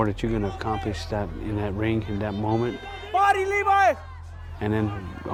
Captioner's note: shouting